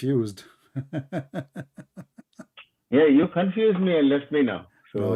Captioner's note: Ketawa